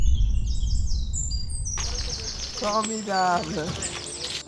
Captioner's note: earth’s hum fades out; instrumental music